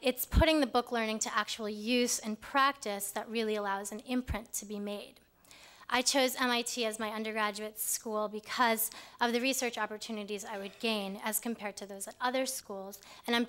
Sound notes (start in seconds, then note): none